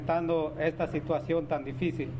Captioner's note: speaking spanish